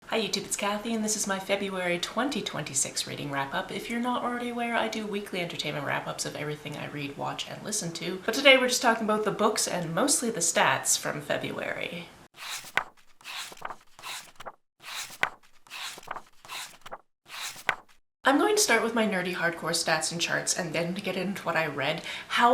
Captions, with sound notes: Hi YouTube, it's Kathy and this is my February 2026 Reading Wrap Up. If you're not already aware, I do Weekly Entertainment Wrap Ups of everything I read, watch, and listen to, but today, we're just talking about the books, and mostly the stats, from February. [pages turning] I'm going to start with my nerdy, hardcore stats and charts and then get into what I read.